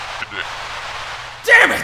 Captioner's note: Static